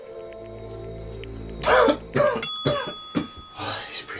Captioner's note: the coughing